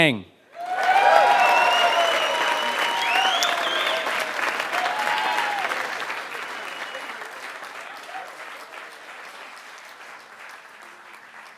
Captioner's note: applause